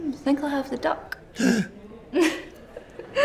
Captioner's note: gasping; laughs